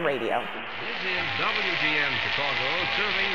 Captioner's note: radio Announcer